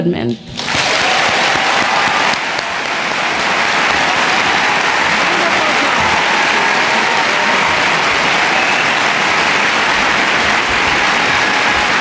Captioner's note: cheering and Applause